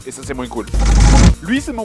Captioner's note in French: bruitage transition de "Bref"